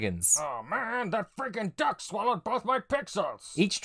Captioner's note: as Strong Bad